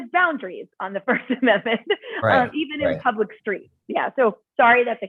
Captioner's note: laughter